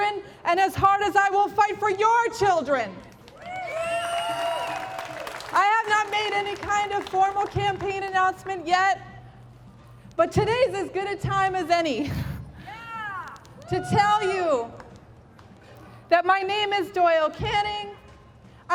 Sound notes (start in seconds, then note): 3.2 applause; 12.6 crowd - yeah!